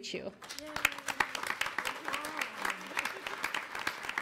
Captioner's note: applause